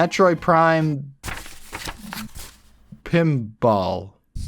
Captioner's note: shuffles through papers